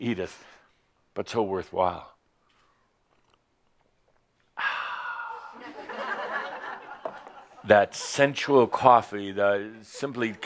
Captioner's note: some chuckles